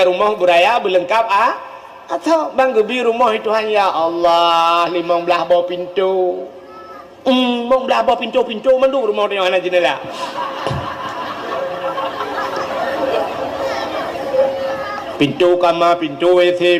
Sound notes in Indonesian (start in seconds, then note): 10.1 tertawa